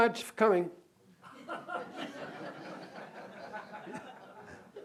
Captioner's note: laughter